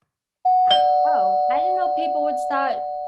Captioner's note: doorbell rings